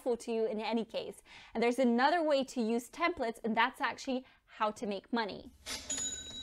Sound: katching!

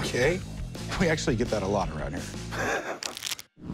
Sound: laughs; poker chips shuffling

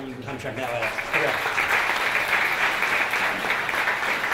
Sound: applause

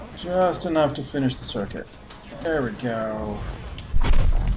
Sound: none

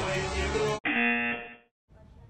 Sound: buzzer

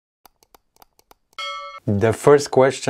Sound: bell dings

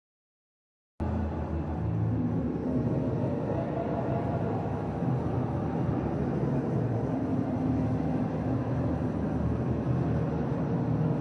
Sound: sound of fair

